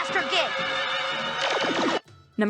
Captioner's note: magic thwomp